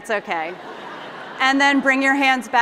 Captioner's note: laughter